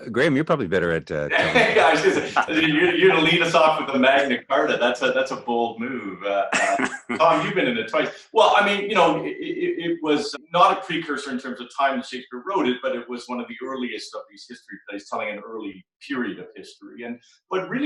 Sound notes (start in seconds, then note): 1.2 laughs